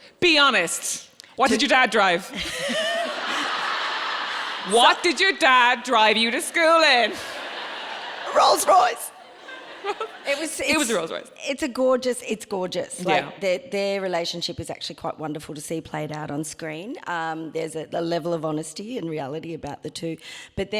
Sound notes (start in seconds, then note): 3.1 audience laughing; 7.3 audience laughing